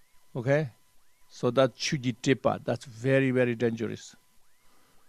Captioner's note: tibetan